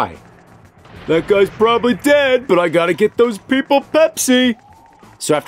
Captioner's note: mockingly